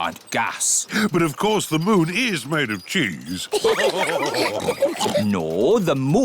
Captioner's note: all laugh